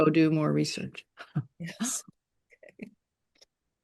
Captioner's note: chuckles